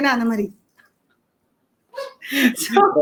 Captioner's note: laughs